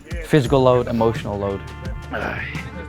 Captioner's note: groans